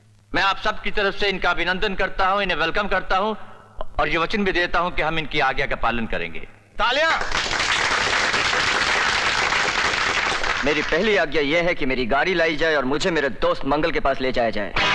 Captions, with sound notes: I welcome him on everyone's behalf and also promise to follow his orders. Applause! (Applauding) My first order is that you bring my car and take me to my friend, Mangal.